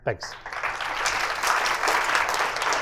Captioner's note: applause